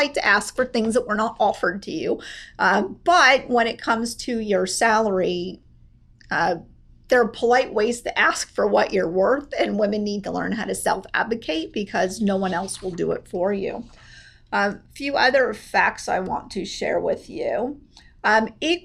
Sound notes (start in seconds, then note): none